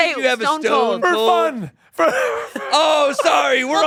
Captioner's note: laughs